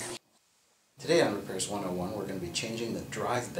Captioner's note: vacuum quits